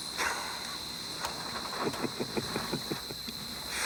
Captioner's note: Bruto chuckles